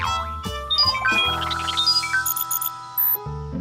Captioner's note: beeping